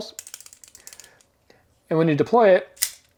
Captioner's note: tool rattling